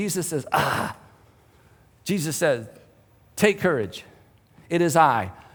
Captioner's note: groans